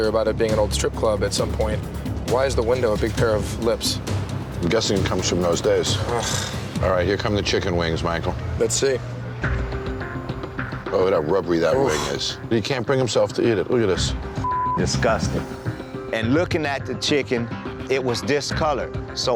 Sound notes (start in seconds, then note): 9.6 suspenseful music; 14.4 beep